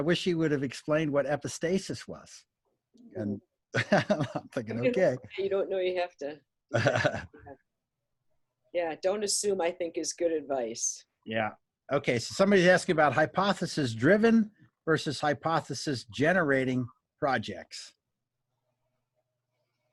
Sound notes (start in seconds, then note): 2.5 laughing; 3.7 overlapping conversation and laughing